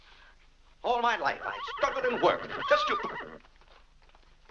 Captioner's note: horse whinnying